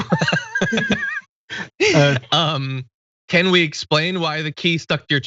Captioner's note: laugh